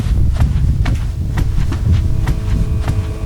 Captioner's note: footsteps